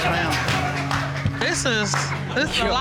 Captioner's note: audience laughs